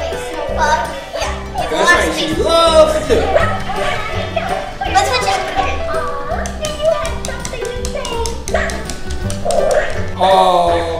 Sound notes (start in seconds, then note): 6.1 clicking; 9.4 barking